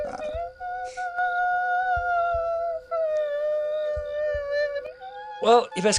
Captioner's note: Mrs. Wells muttering